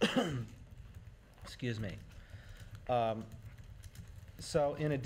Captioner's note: coughs